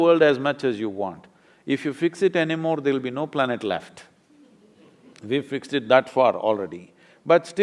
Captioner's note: few laugh